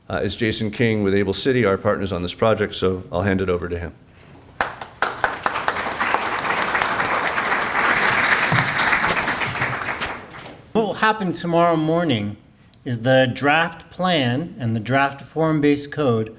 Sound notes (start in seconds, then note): 4.6 clapping